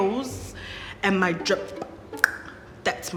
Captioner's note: clicks tongue